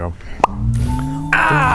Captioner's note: pop!